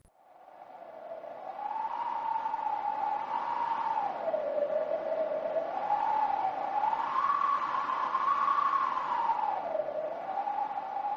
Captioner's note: wind howling